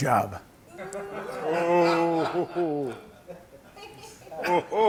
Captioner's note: laughter